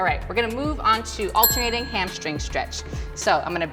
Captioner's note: bell rings